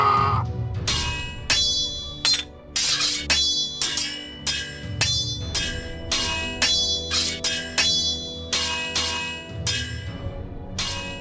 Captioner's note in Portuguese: grito; espadas batendo uma contra a outra